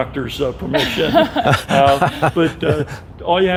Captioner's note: laughing